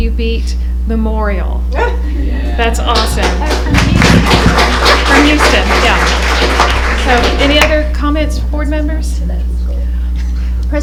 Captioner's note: applause